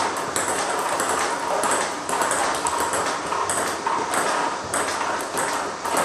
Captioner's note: ball ping pong hitting continues